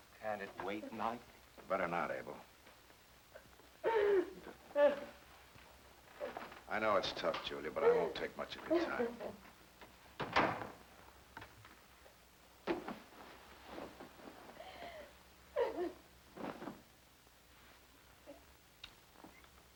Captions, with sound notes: - Can't it wait, Mike? - Better not, Abel. (Julia sobbing) I know it's tough, Julia, but I won't take much of your time. (door closing) (Julia sobbing)